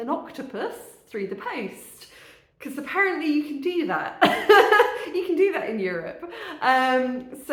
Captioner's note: laughing